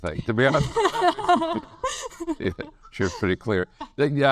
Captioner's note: laughs